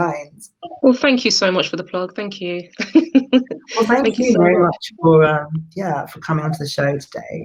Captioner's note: laughs